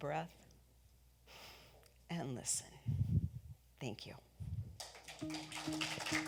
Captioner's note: audience applauds; gentle music